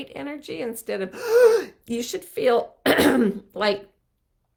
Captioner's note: gasping; throat clearing